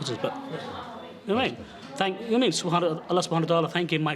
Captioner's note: speaking in foreign language